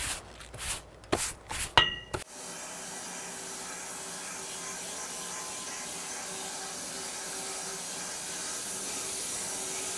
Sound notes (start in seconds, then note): 2.3 saw running